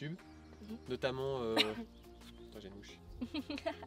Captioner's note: laughs